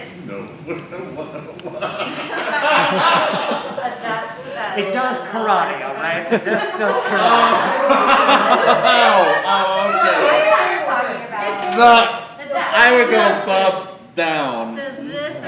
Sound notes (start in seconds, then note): 4.1 laughter; 8.0 laughter and a cacophony of excited chatter